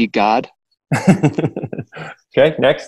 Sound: laughing

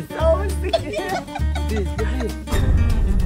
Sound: is laughing too hard

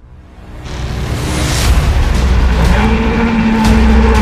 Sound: engine roaring throughout video

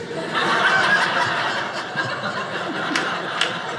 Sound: audience laughing

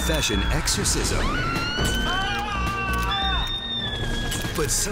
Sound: screams

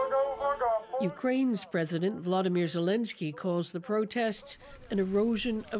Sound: speaking alternate language

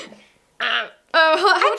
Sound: makes weird duck sound again

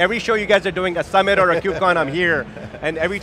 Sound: laughing

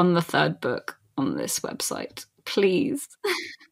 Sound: sobs

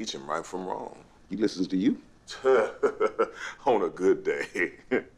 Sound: chuckles

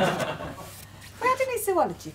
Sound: laughter

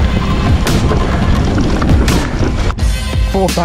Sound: bike clatters

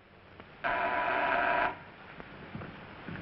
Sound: door bell buzzing

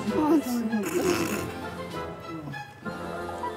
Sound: laughing

